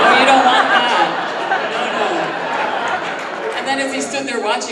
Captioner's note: audience laughing